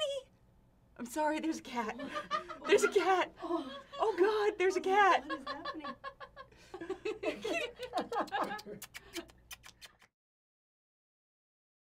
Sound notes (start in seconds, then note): 5.2 laughter; 8.0 women laughing